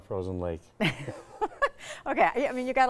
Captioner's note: both chuckling